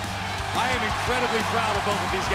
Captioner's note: cheers & applause